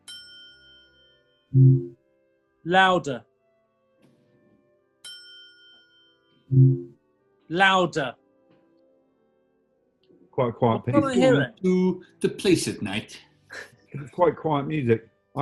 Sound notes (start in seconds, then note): 1.5 alexa tone; 6.5 alexa tone; 14.0 chuckles